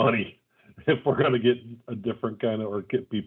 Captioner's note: laughs